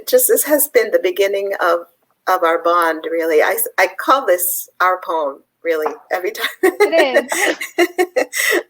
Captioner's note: laughs